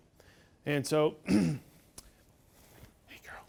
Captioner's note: clears throat